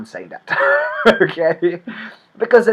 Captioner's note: laughs